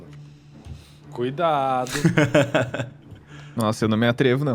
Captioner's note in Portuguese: risos